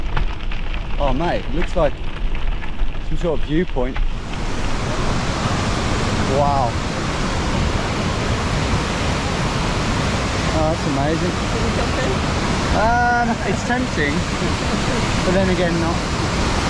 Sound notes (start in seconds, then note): 5.0 waterfall crashing